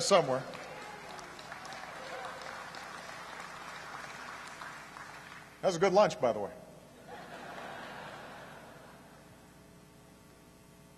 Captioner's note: applause; laughter